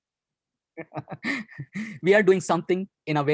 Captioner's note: laughs